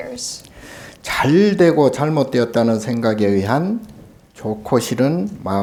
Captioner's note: speaking Korean